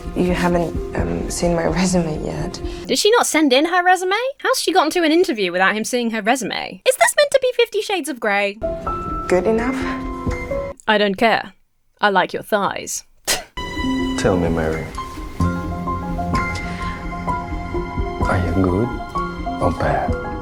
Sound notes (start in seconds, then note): 13.4 Emma chuckles; 13.6 discordant music